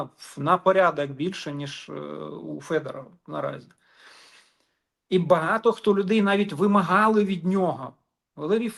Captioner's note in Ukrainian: сопіння